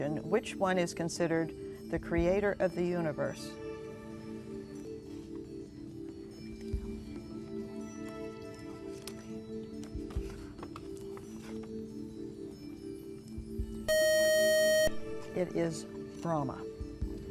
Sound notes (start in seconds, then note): 5.3 whispering; 7.0 ethereal music; 13.9 beep